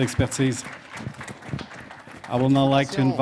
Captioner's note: speaking French